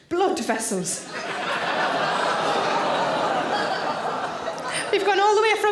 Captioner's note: audience exclaiming